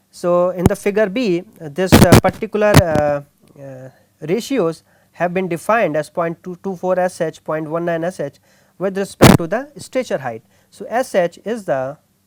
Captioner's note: static